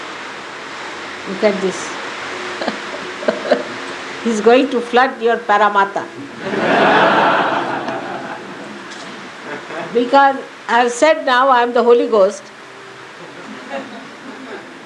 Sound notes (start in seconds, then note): 0.0 rain is pouring down